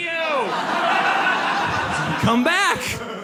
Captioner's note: audience laughs